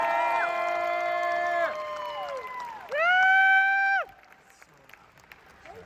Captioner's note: cheering